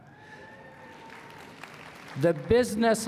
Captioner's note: applause